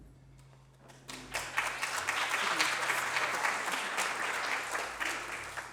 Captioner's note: applause